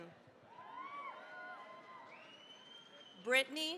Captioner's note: cheering, applause